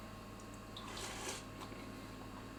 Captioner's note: slurp